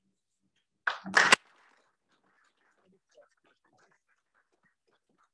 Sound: audience clapping

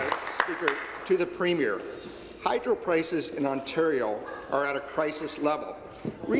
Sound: applause

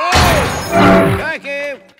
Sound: whooshing

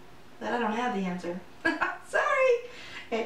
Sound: laughs

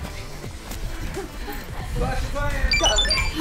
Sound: heaving breathing

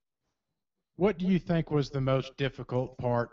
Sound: voiceover

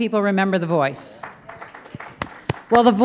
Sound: applause

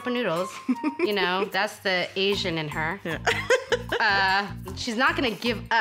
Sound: laughs

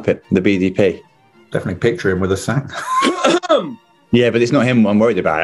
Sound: sniggering

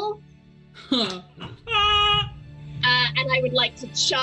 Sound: laughs

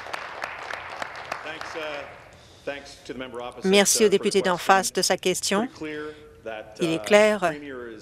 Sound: applause

